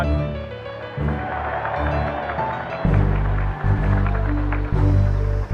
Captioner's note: applause